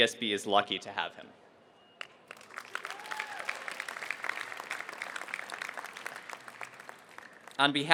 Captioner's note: applause